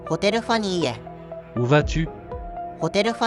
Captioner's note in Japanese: フランス語